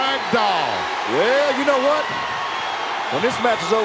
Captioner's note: audience cheering